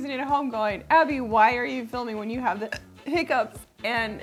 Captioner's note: hiccups